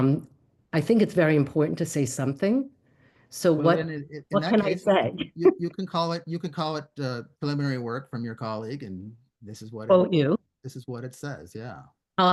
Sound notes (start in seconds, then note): 5.4 laughter